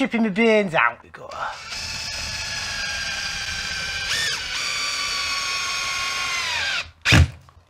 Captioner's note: drilling